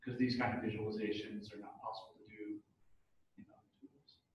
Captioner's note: speaking off mic